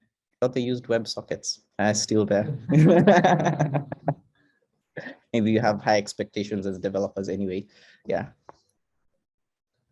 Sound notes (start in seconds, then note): 2.4 laughing